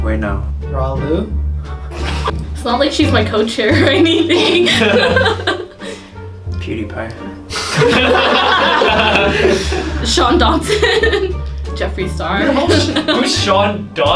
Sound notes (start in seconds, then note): 7.6 everyone laughs